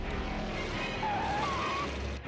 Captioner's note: tires screeching